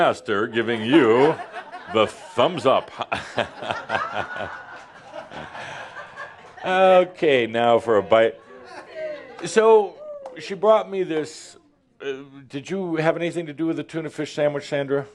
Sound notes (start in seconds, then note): 2.5 more laughter